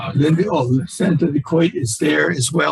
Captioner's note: voice muffling